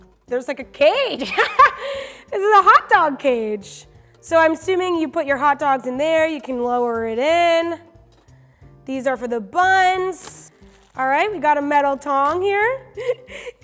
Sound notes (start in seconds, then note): 1.5 laughing